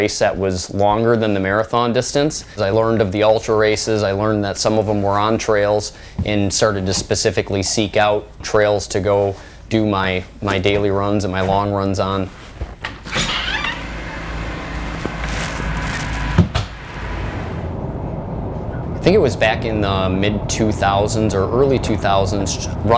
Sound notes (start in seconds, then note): 12.7 sound of door opening; 16.3 sound of door closing